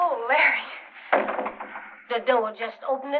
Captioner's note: door closes